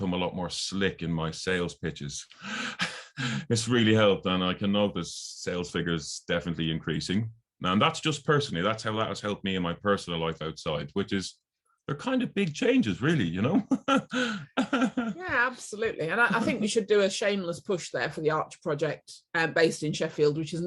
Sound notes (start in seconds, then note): 13.4 laughs